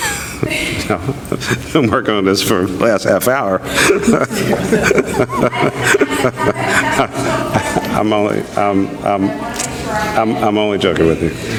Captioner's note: chuckles